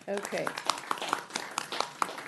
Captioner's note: applause